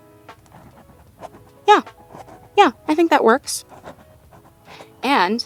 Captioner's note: more writing sounds